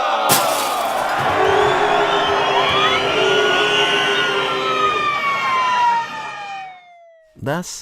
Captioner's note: angry mob and riot sounds